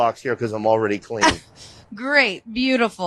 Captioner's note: chuckles